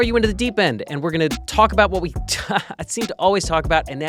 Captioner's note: chuckles